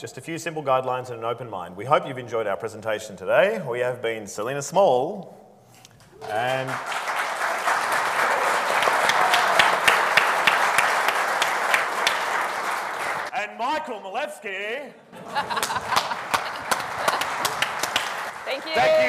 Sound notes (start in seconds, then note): 6.1 audience applauding; 15.1 laughing; 15.2 audience applauding